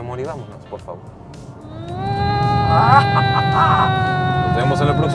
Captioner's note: imitates engine; laughter